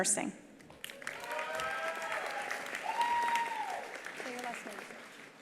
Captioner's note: attendees applauding; attendees cheering